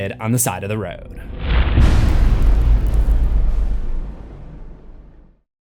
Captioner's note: impact